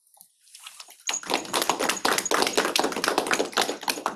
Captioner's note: applause